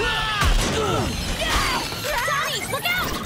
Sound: grunting

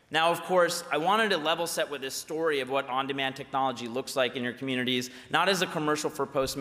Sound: none

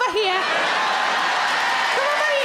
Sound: crowd cheer

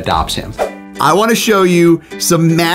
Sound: screen swooshes; upbeat music plays

